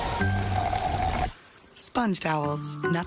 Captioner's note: draining sound